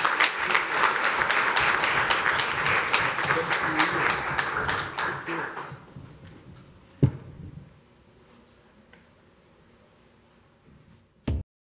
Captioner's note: applause